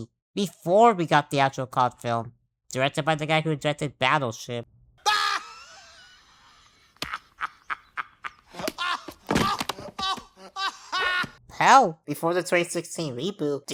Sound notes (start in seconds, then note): 5.0 dying of laughter